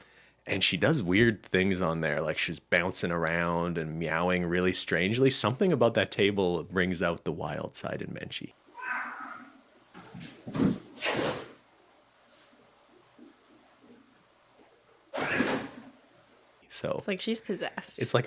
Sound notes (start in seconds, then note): 8.7 angry cat meows